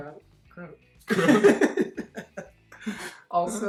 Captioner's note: both laughing